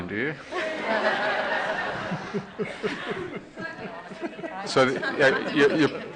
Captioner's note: laughter